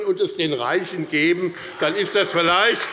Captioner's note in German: Demonstrativer Beifall bei Abgeordneten der SPD